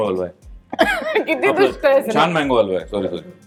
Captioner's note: chuckles